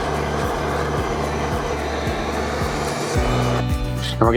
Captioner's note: torch blowing